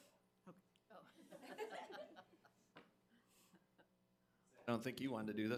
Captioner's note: crowd laughing